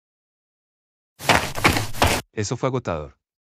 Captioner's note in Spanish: FX - Footsteps - On Multiple Dirt - Run